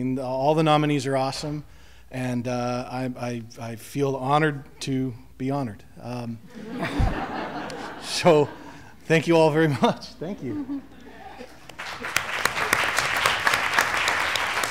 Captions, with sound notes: All the nominees are awesome. And I feel honored to be honored. So, thank you all very much. Thank you. [Applause]